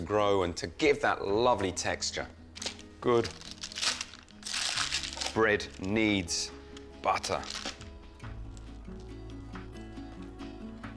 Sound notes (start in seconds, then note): 5.9 paper crunching; 8.2 gentle music